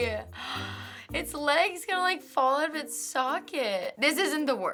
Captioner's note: gasping